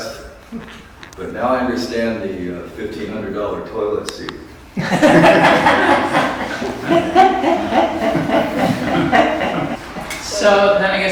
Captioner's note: laughter